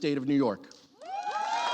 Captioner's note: cheering and applause